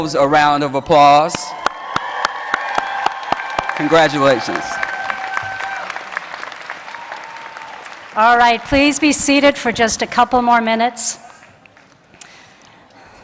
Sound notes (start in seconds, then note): 3.3 cheers and Applause